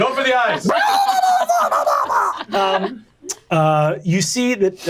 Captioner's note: imitates shrill squealing